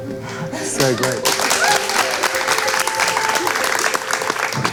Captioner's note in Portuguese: Aplausos